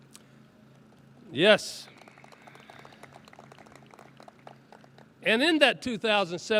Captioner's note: audience claps